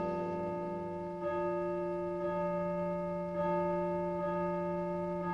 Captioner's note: church chimes